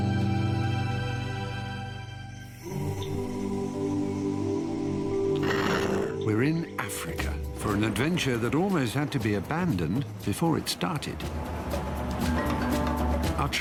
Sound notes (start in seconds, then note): 5.3 lion yawns; 11.2 mysterious music